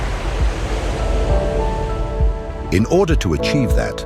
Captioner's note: gentle music; waves crashing